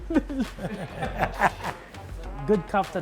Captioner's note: laughter